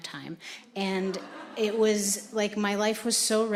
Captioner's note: audience laughing